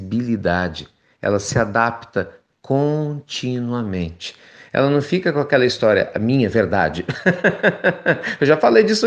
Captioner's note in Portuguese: risos